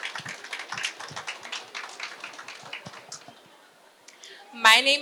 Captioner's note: applause